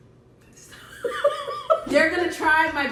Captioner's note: sister laughs